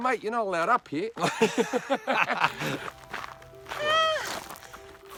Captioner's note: both laughing